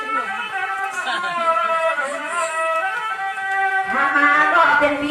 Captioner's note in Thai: ปรบมือ